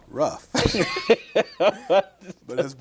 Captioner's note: laughs